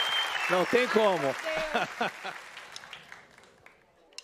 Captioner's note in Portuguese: aplausos